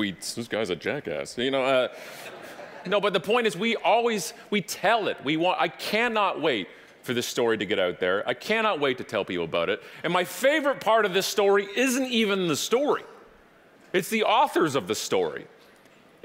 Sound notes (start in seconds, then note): 2.0 audience laughing